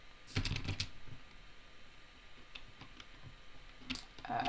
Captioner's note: keys tapping